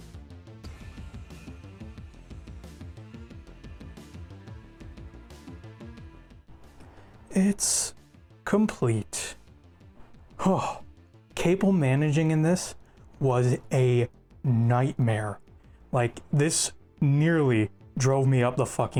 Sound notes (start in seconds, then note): 10.3 sigh